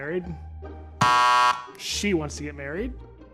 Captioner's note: shop attendant pressing buzzer